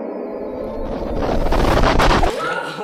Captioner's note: distortion; skidoo sfx